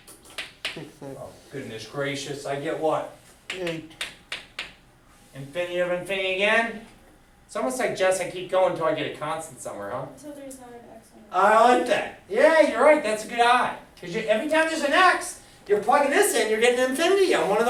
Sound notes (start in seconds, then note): 10.2 student speaks softly